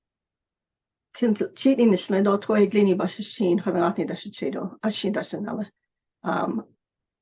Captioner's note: foreign language